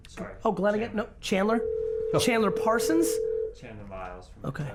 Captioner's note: phone ringing